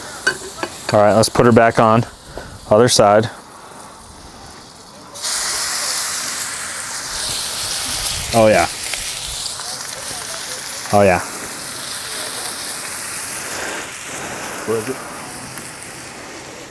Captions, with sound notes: All right, let's put her back on other side. (butter sizzling) Oh, yeah! Oh, yeah! (butter sizzling)